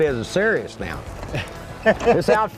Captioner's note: laughter